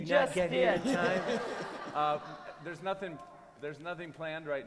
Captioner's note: laughter